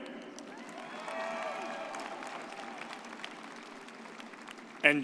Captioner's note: audience cheers